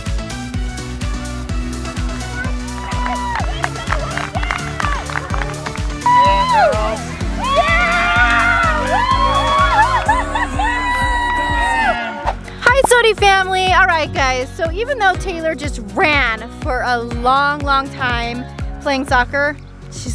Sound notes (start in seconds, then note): 0.2 upbeat music; 8.2 cheering